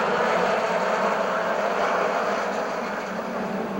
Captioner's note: engines whine